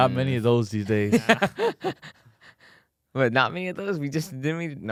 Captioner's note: laughs